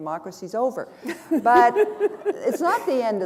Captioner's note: chuckle